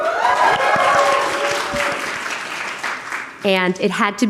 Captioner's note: audience cheering and applauding